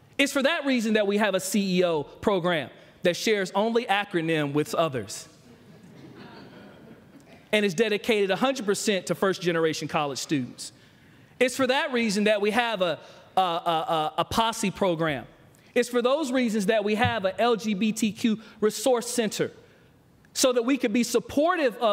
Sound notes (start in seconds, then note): 5.4 laughter